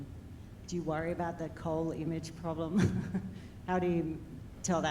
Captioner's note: chuckles